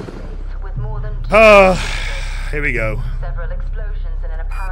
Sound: sigh

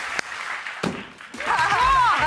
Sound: audience applauds; ballon pops; laughs

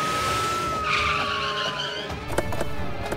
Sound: siren wailing; car halting; car door opens

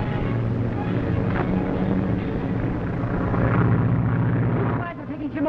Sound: metallic thudding

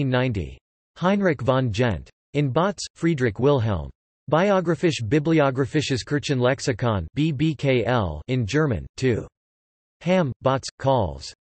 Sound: in German

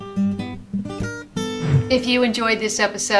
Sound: bluesy music ends; whoosh SFX

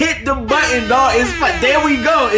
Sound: siren sounds

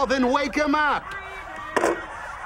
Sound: receiver clicks

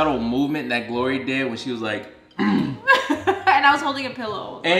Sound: laughing

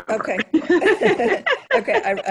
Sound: laughing

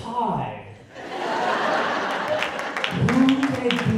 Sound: audience laughing

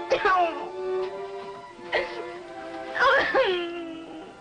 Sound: crying

